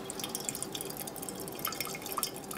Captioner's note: quiet splashing